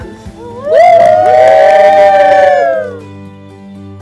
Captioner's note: cheering!